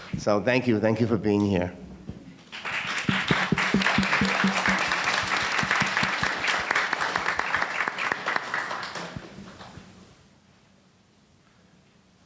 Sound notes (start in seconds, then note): 2.5 audience applauding